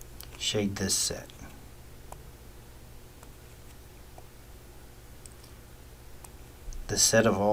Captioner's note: writing Sounds